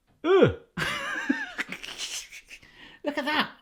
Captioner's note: laughs